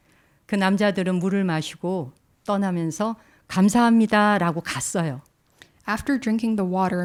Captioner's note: speaking in Korean